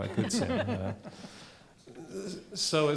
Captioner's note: chuckling